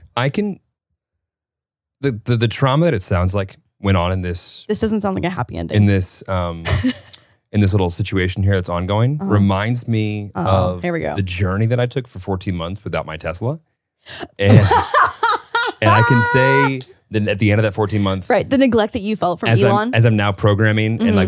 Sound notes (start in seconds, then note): 6.4 chuckles; 14.4 laughing